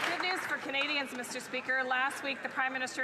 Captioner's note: some Applause